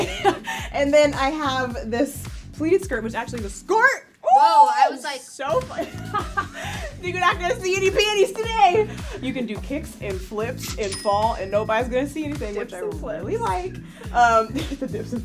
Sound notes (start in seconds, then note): 4.2 shrieks; 5.8 laughs; 14.4 chuckles